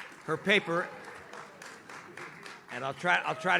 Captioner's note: audience claps